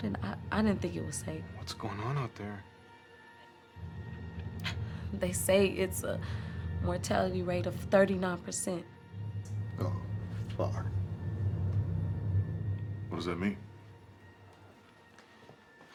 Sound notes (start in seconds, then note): 6.0 breathes uneasily; 11.0 suspenseful orchestral music